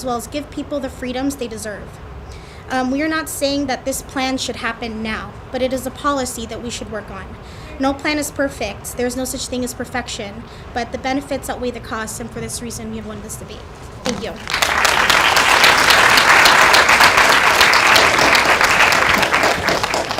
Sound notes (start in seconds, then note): 14.3 applause